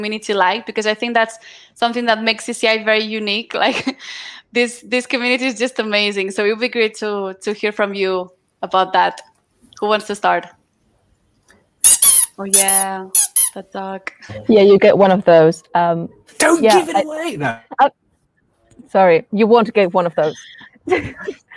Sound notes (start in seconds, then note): 11.8 duck doll squeaking